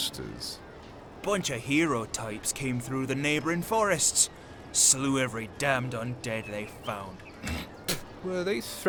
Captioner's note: spits